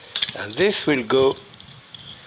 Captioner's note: shells clicking